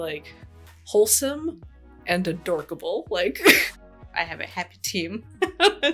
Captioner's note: laughs